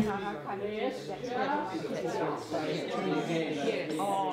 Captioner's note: people conversing